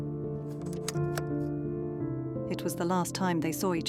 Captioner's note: slide clunking